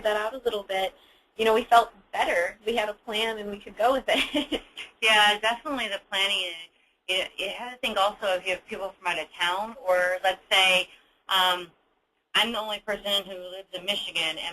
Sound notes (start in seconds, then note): 5.1 laughs